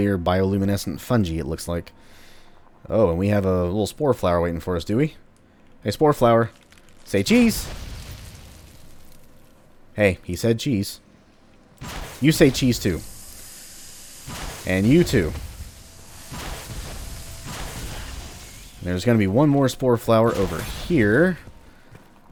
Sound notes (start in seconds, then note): 8.5 fwoosh; 11.8 fwoosh; 13.3 fwooshing continues